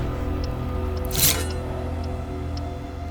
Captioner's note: blade tearing flesh; knife stab